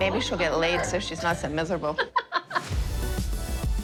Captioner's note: laughing